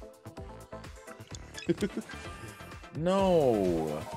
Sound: laugh

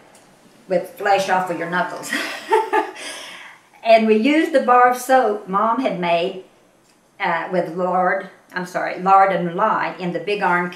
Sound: laughs

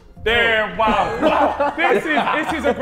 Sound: Sidemen laughing

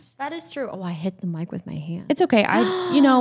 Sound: gasps

